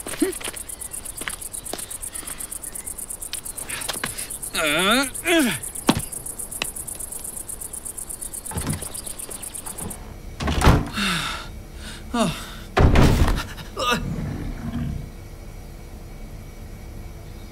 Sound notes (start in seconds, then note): 4.5 man grunts; 5.9 stone thuds; 10.5 door clunks; 11.7 man panting; 11.8 man gasps; 12.7 door thuds; 13.8 crocodile growling